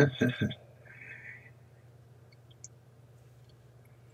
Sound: laughs

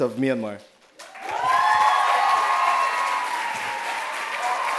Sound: loud applause and cheers

